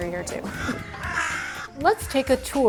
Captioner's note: crows cawing